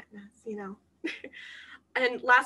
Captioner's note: laughter